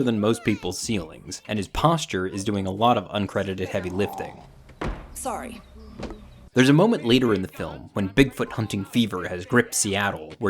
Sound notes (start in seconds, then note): 4.5 banging